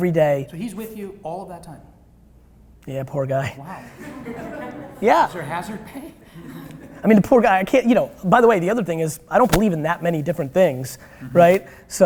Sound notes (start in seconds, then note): 3.8 audience laughter; 6.2 laughter